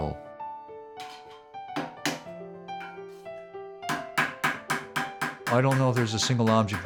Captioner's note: hammering